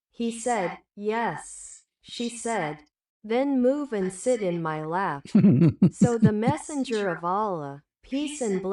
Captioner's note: laughter